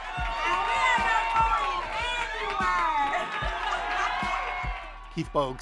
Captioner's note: cheers and Applause